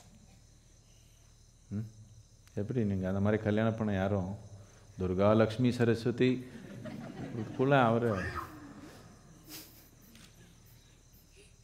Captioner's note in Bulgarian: смее се